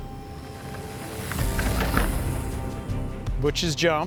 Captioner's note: bike going off jump